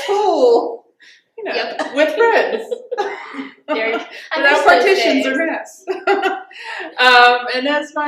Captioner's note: laughter